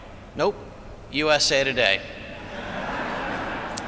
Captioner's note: laughter